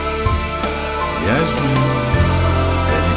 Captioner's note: Bennett in singsong voice